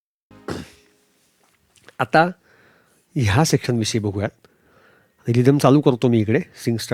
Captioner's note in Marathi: घसा साफ करणे